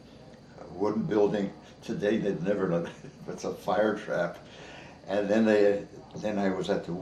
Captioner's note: chuckles